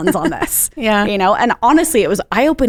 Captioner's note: chuckles